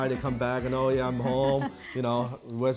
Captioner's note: laughing